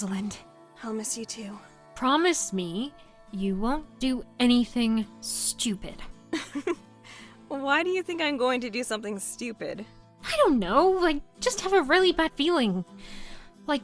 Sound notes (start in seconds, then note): 6.3 laughs